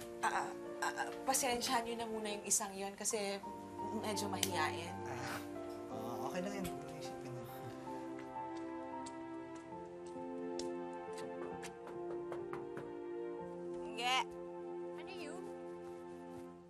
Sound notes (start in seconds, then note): 11.3 knocking